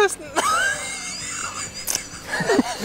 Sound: laughter

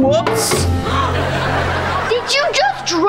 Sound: gasping

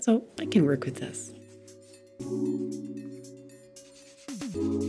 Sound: paper rubs

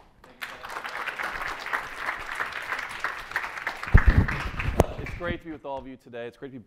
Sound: audience applauds

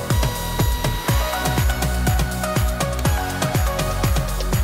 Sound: drill buzzing

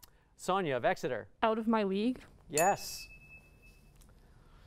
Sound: ding

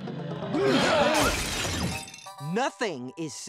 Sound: shattering

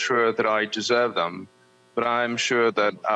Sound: speaking Alternate Language

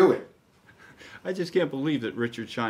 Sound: chuckles

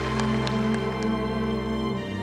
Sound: applause

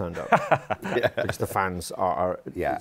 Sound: laughs

